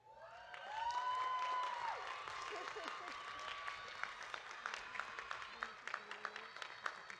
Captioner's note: audience applauding; audience cheering